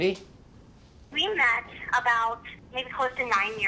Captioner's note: woman on Phone